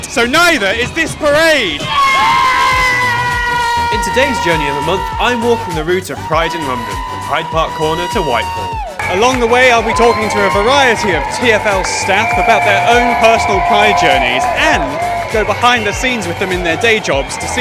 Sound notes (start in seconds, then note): 1.8 lots of cheering